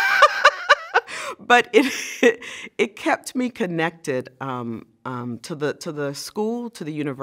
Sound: laugh

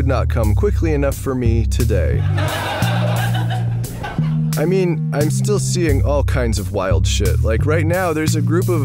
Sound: laughter

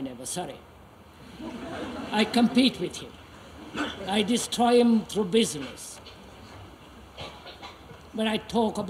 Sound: laughter

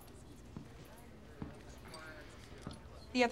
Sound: sighs

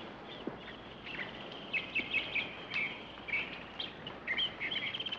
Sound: birds chirping

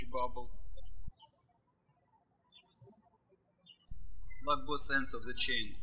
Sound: birds chirping

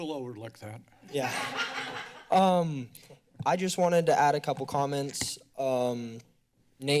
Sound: laughter

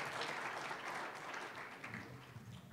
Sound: applause, cheering; applause

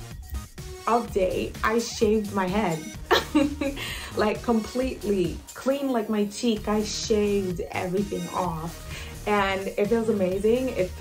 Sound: laughs

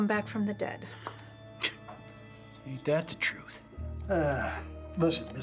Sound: scoffs

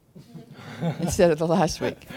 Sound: laughter

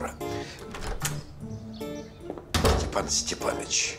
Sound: door opens

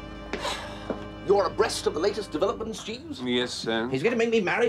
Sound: sighs

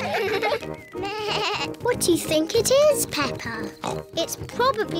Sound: bleats; oinks

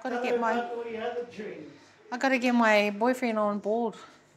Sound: none

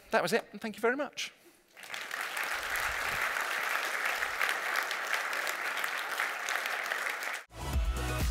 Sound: applause

